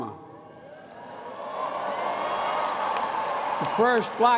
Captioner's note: applause